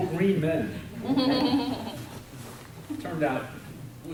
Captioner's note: woman laughs